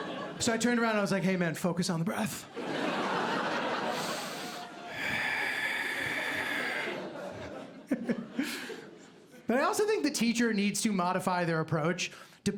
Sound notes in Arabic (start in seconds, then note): 3.7 يتنفس بعمق; 7.5 ضحكة خافتة